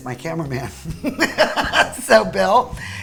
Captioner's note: laughs